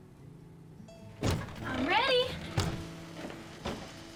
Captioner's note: door opens, closes